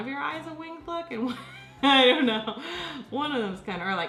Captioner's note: laughs